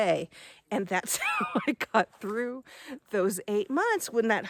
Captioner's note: laughs